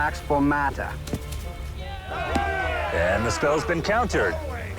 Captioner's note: cheering